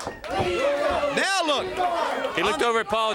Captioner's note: crowd cheering